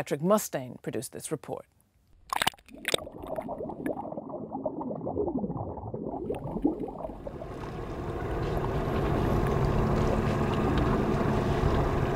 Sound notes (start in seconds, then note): 2.1 fishing boat engine; 2.2 underwater noises